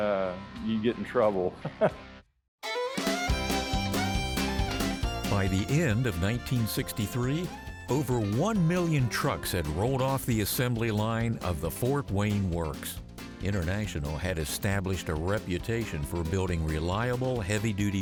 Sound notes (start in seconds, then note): 1.6 laughs; 2.5 fiddle music